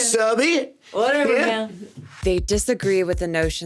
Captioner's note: chuckles